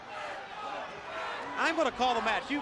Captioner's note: crowd chatter